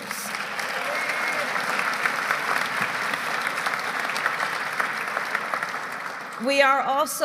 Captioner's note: applause